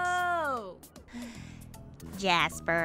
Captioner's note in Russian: Глубокий вдох